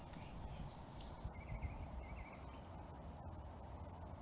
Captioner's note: birds chirping